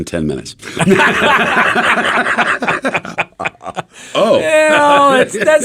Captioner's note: everyone laughs